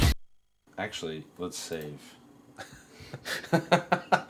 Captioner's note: laughter